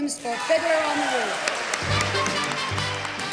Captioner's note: crowd cheers and claps; upbeat music